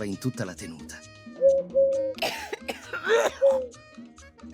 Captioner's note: sound of a coughing turtle dove